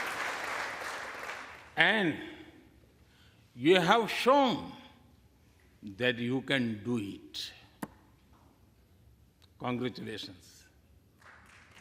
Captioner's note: applause